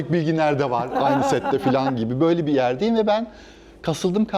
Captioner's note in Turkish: kahkaha